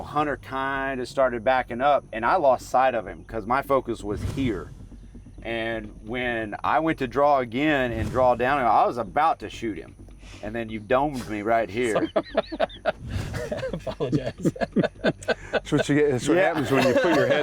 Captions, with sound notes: Hunter kinda started backing up and I lost sight of him, 'cause my focus was here. And when I went to draw again and draw down, I was about to shoot him and then you domed me right here. (laughter) - I apologize. - That's what happens when you put your head